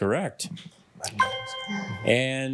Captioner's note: ethereal ring